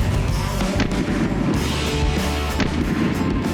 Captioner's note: whooshing; gun firing